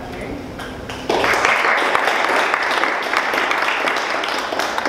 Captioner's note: audience applause